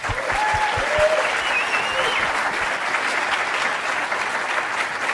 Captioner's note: applause